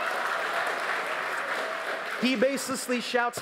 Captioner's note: applause